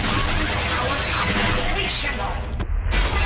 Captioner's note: drowned out by ambient noise and gunfire